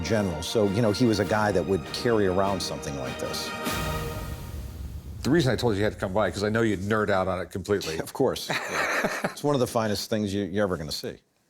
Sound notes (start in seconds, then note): 8.4 laughs